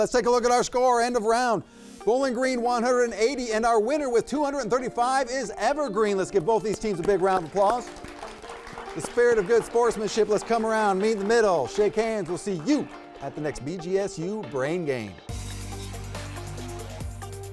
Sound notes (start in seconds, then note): 6.4 audience applauding; 15.5 upbeat music